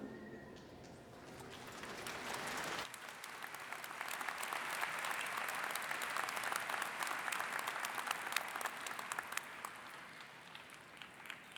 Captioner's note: applause